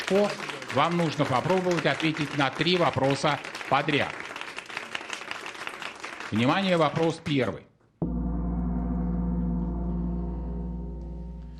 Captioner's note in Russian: аплодисменты